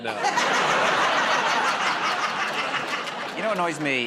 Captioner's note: laughter